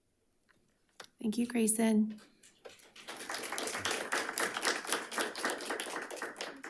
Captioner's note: audience clapping